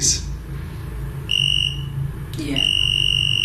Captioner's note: device ringing